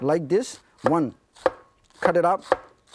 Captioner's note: chopping food sounds